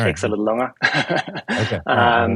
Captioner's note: laughs